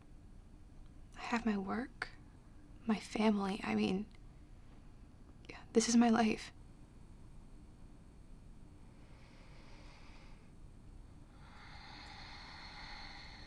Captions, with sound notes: I have my work, my family, I mean... yeah, this is my life. [deep breath]